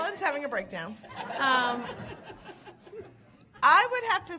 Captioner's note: audience laughing